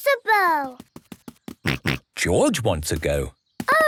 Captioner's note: snorts